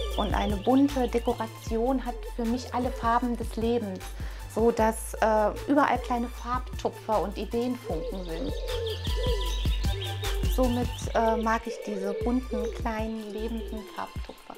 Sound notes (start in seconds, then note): 7.8 cooing